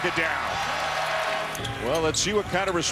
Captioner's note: crowd cheering